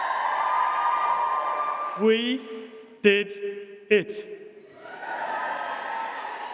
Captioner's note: applause, cheering